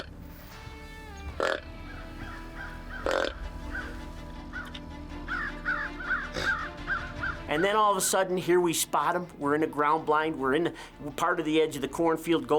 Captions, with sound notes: (grunt call croaking) (crows cawing) (suspenseful music) And then all of a sudden, here we spot 'em, we're in the ground blind, we're in part of the edge of the cornfield